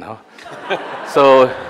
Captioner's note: audience laughing